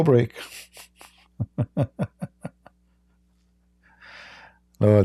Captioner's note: Ketawa